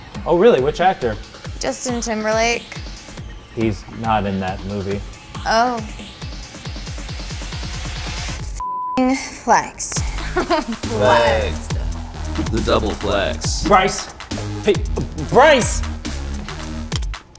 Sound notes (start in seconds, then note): 10.0 giggles